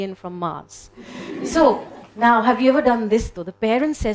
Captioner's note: audience laughing